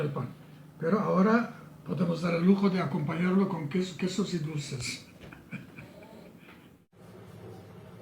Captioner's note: laughs